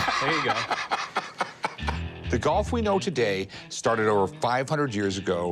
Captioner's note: laughs